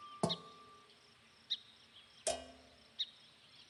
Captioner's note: birds chirping